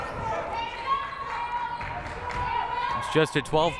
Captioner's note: crowd murmuring